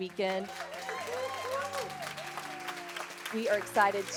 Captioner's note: audience applause